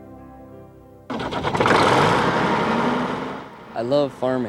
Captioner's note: engine revving